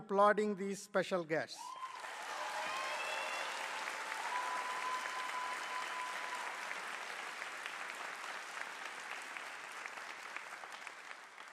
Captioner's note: applause